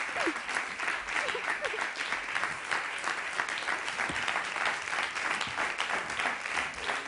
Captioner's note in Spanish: Aplausos